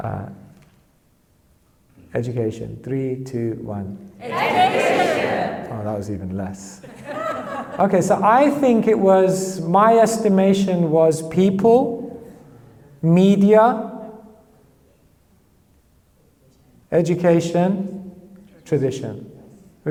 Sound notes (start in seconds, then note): 6.8 audience laughs